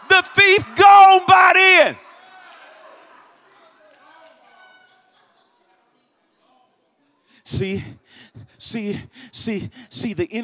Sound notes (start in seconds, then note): 2.3 congregation shouts